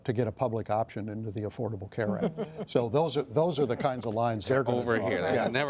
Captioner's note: laughter